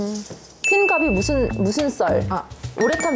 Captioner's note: idea-popping sound effect